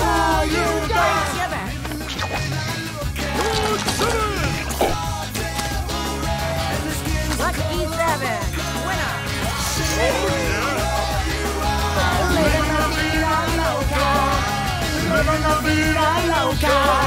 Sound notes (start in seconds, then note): 9.4 cheering